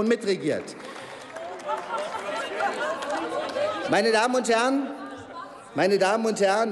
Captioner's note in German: Applaus